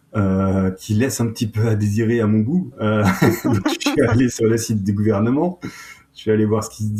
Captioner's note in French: rires